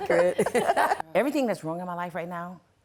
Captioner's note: laughter